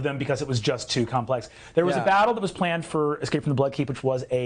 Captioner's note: none